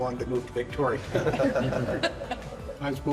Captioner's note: instructor laughing